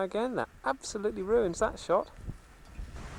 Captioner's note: sarcasm